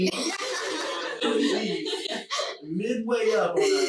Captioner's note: laughing loudly